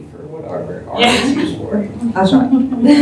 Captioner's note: laughter